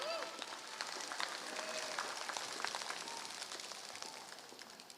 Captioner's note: applause